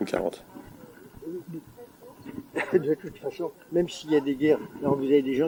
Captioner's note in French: rire